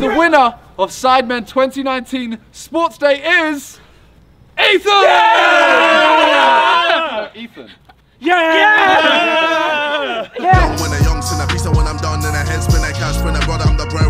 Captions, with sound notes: The winner of Sidemen 2019 Sports Day is... Ethan! (men cheering) Ethan. - Yeah! (upbeat rap music)